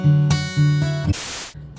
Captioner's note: static